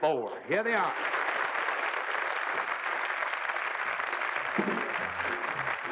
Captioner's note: applause